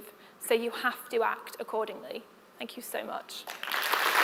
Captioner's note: applause